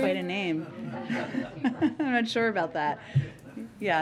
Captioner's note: laughter